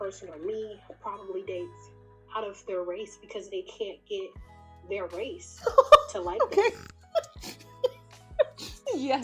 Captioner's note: laughs